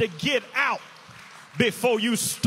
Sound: inmates applaud

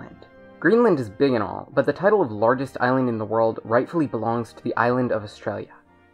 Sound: American accent

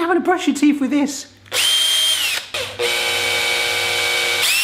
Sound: whirring

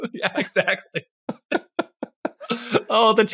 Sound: laugh

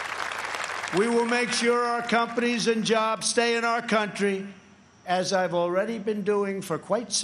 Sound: applause

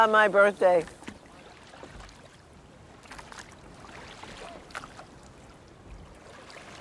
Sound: water lapping

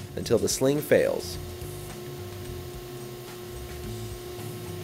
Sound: machine humming

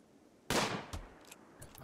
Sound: gunshot

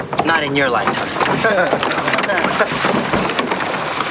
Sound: laughs

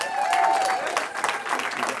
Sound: cheering

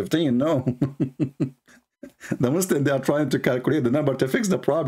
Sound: Ketawa

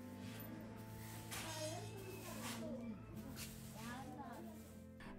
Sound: broom swishing against concrete

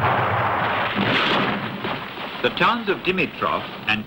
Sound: gunfire thundering

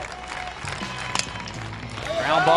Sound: ball connecting with bat

